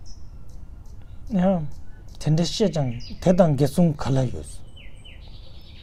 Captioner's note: tibetan